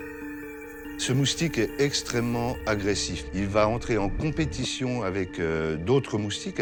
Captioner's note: speaks in foreign language